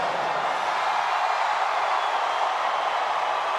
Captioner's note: audience cheers